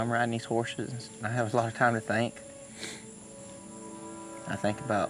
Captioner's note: sniffs